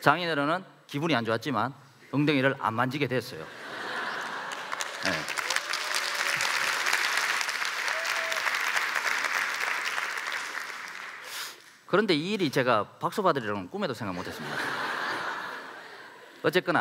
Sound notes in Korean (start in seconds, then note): 3.4 웃음; 4.2 박수